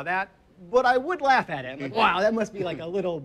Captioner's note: laughs